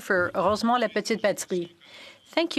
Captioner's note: speaking French